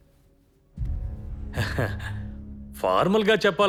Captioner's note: babuji chuckles